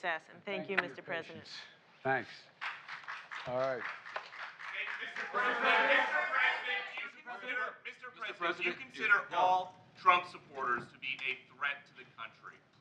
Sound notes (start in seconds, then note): 2.5 applause